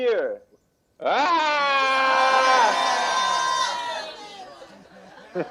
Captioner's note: everybody yelling; laugh